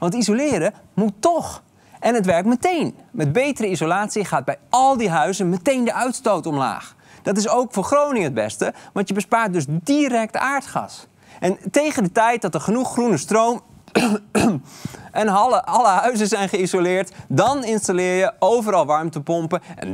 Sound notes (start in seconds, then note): 13.9 coughcough